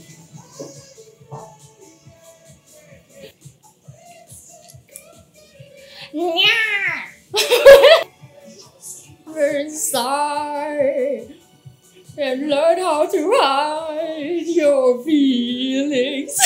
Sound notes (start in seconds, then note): 7.3 laughs in embarrassment